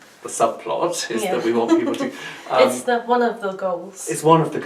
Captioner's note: laughs